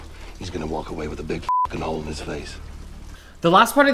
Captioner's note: beep